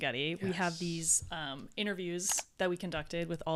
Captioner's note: computer mouse clicking